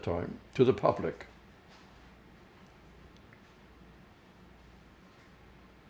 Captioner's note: pauses 6 seconds